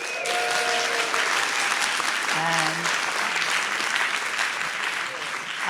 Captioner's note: applause, cheering